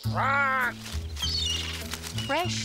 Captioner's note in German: Commander kreischt; Vogel kreischt